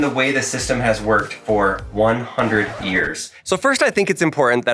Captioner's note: record scratching